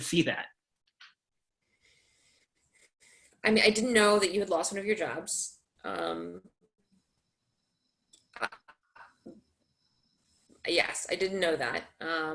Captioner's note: pause